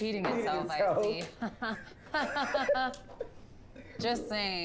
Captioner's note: laughs